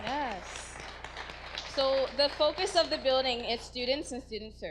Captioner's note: audience applause